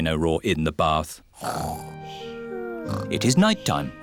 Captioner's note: snoring